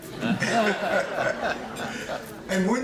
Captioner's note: audience laughing